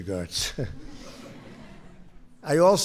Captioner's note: laughter